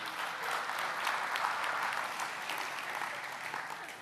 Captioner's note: applaus